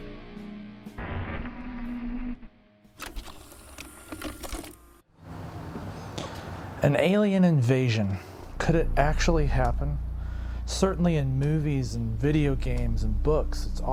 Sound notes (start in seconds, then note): 0.0 unsettling music; 3.0 VCR whirs